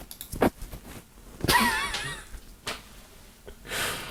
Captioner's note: laughs